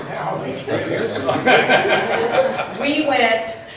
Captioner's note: laughs